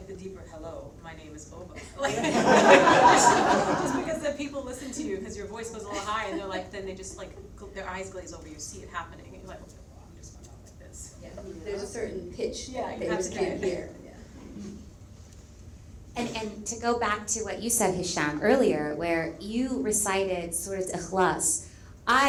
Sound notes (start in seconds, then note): 2.0 all laugh; 10.2 speaks faintly; 20.5 speaks in Arabic